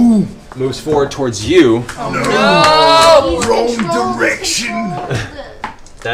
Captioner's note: Grog voice